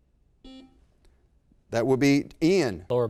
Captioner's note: buzzer beep